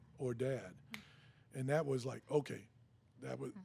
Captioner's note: snaps fingers